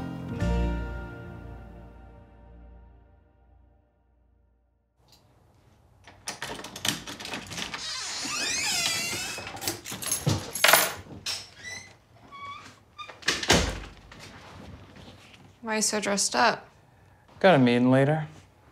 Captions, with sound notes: (lock rattles) (door creaks) (keys clink) (door closes) - Why are you so dressed up? - Got a meeting later.